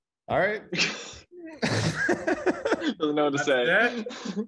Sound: laughing lightly

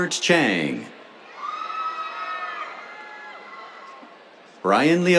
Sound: cheers

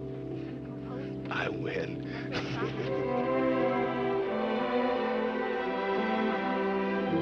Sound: laughing

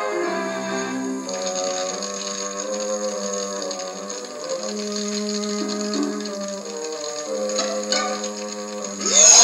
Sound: fire Crackling

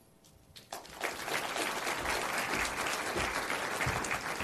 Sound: audience applauds

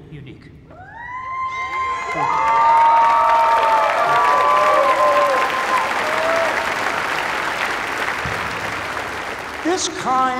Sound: cheers and applause

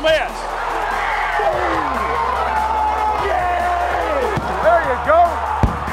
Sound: cheering

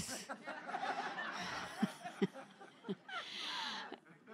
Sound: crowd; laughter

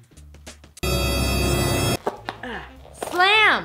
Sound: dramatic sound effect

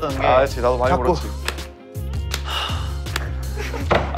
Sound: slap

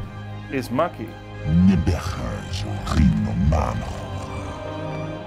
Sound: speaking Sangheili

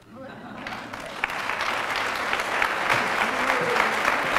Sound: applause

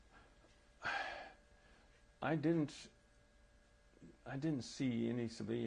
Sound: sighs

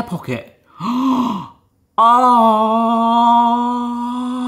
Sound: gasps

